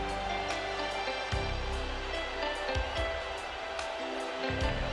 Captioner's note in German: beifall